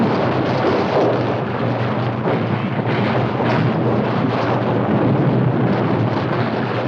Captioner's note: suspenseful music continues; stones rumbling continues; water gushing continues